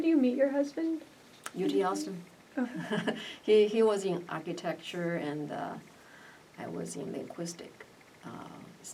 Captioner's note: laughs